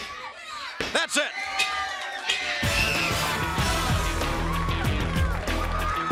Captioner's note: crowd chatter